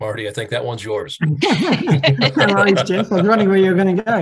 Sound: laughter

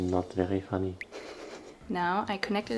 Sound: tear drop drips; chuckles

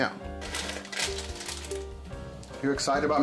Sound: bag crackles

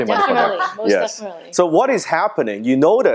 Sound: laughing

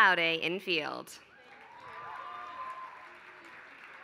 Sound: applause

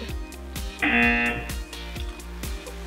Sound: buzzer

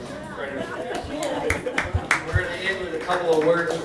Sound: applause

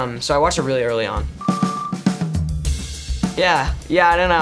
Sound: beeps

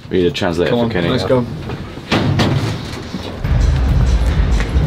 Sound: bangs lift wall

